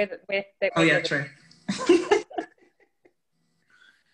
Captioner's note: laughing